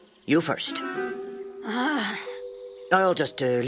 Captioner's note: sighs